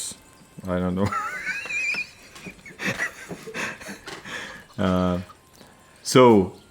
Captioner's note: laugh